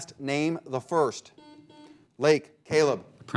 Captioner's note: buzzer beeping